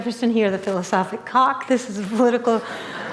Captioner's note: laughter